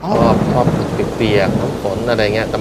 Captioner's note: raining sound